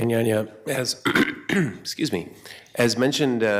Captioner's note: clears throat